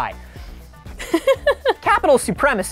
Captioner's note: laughing